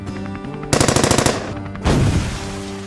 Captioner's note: helicopter Engine; machine Gun Fire; cannon Fire